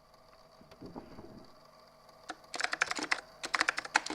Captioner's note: moving noises & keyboard clacking